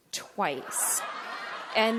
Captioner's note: audience laughter